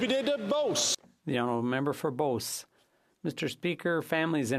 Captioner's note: some Applause